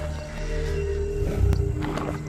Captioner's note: growls